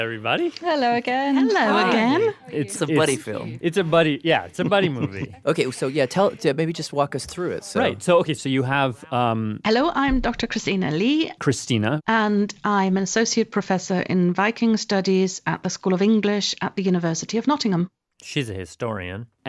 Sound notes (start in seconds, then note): 4.2 laughs